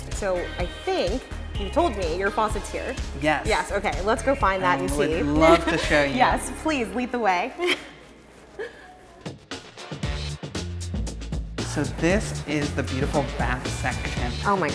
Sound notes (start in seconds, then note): 8.7 laughs; 9.3 bright music